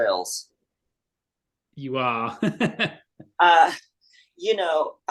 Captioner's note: laughs